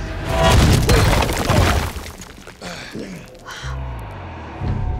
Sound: dramatic suspense music; deep grunts

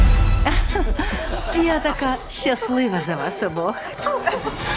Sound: laughter

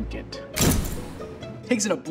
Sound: percussive hit

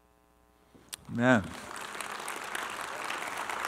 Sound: applause

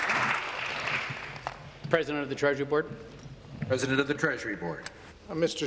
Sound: applause

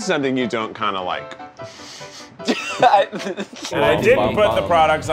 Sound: laughing

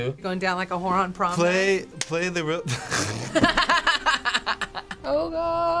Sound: laughing; snorts

